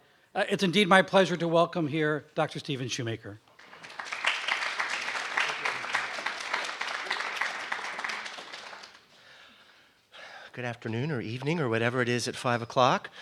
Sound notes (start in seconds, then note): 3.5 <i>Applause</i>